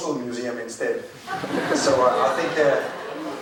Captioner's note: crowd laughing